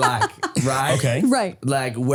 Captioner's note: laughing